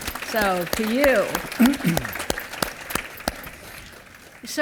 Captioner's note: applause